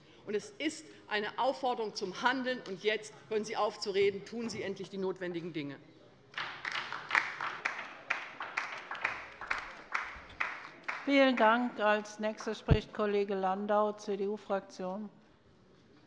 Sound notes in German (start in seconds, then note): 6.3 Beifall bei der LINKEN